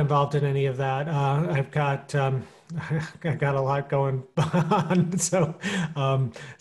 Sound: chuckling

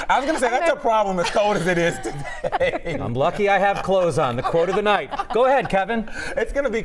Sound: laughter

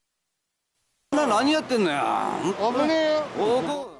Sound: speaking japanese

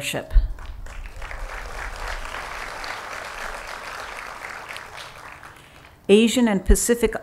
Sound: applause

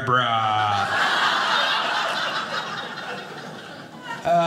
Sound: audience laughing

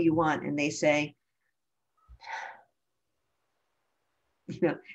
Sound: sigh

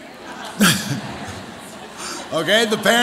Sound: audience laughs

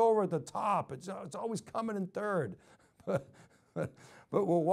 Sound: chuckles

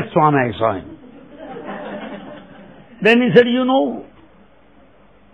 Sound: laughter

